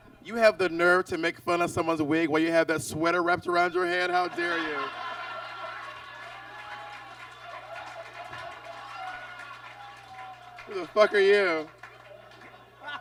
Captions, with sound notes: You have the nerve to make fun of someone's wig while you have that sweater wrapped around your head? How dare you. [audience laughs] Who the fuck are you?